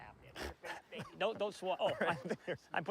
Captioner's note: coughs